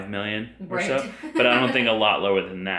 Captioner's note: laughs